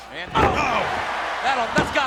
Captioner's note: body thuds